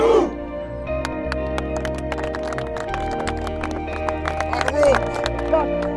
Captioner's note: group clapping